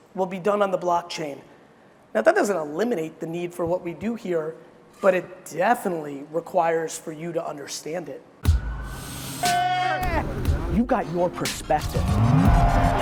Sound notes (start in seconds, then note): 8.4 upbeat music; 9.4 man screaming